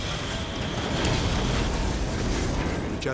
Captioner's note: explosion pounds; intense dramatic music